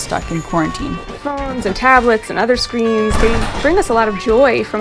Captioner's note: podcast Voice